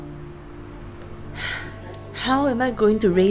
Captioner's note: sigh